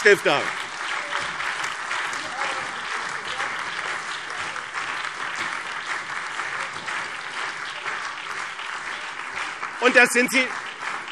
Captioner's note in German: Beifall BÜNDNIS 90/DIE GRÜNEN, CDU, SPD und DIE LINKE